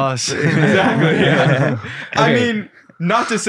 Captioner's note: group laughing